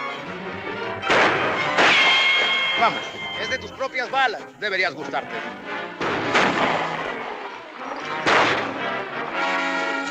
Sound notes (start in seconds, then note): 6.0 gunshots